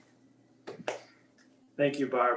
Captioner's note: clapping